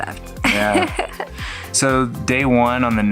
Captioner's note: laughs